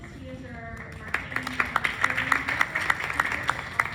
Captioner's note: clapping